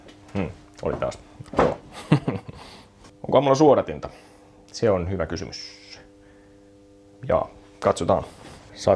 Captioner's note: laughs